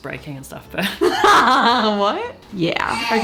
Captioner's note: laughs